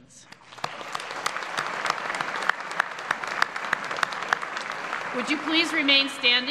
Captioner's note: applause